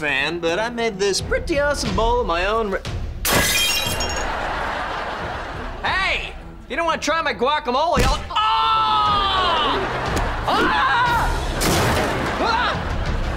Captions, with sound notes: but I made this pretty awesome bowl of my own... Hey! You don't wanna try my guacamole, I'll... [screaming] Wah!